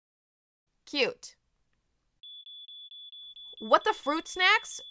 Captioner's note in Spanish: Pitido de alarma de humo